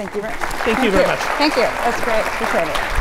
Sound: audience applauds

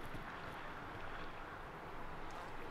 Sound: bird and wave sounds

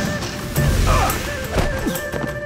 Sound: grunting

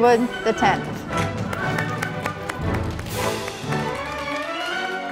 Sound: audience applauding

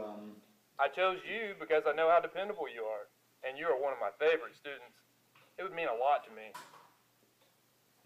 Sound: phone voice

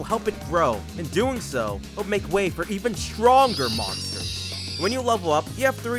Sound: pig sound effect

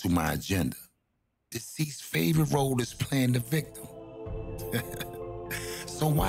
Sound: laughing

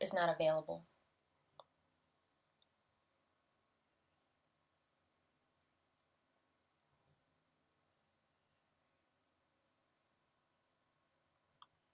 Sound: silence

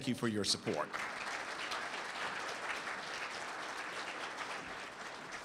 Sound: audience applauds

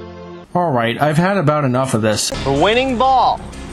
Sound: in Greg Farshtey's voice

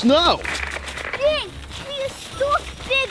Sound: static crackles

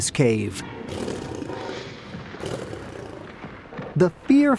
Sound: lions snarling

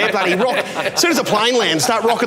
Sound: laughing

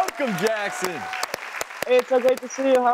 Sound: clapping

